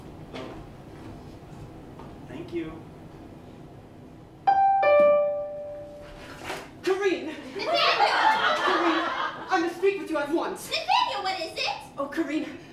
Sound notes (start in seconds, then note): 4.5 doorbell; 7.4 laughter